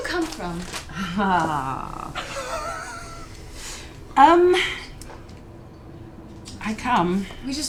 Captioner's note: exhales